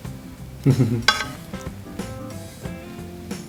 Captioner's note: chuckles with excitement